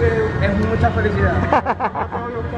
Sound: chuckles; laughs

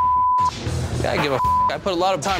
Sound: beep

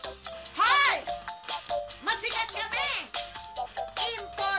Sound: shouts

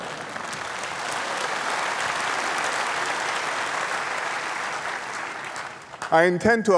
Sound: laughter and applause

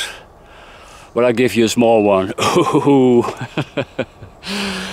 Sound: laughs

